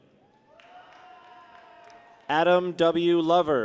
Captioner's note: people cheer